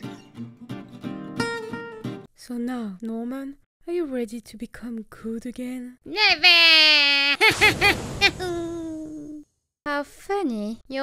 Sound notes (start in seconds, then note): 6.2 evil laughter; 8.2 joyful scream